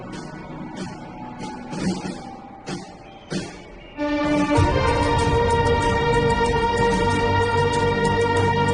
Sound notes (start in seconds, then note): 2.9 bird of prey shrieking; 4.0 epic orchestral music